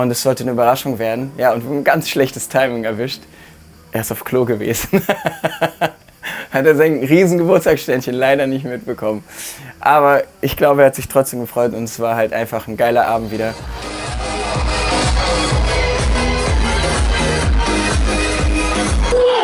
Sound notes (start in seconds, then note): 4.8 lacht